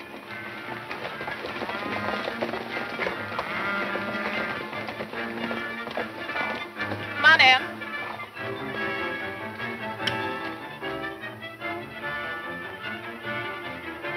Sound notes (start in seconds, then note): 1.3 horses galloping; 9.9 dramatic music